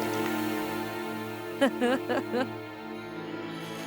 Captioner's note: laughs